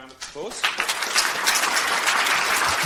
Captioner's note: audience applauds